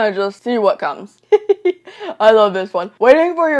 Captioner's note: laughs